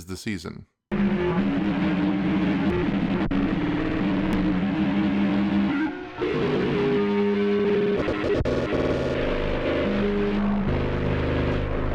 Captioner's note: loud game sounds